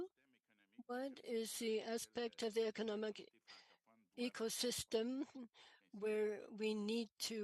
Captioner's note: speaking French